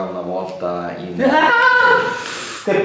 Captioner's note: screaming in terror